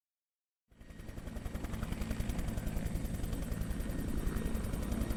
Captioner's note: helicopter whirring